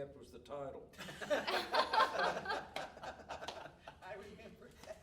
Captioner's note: all laughing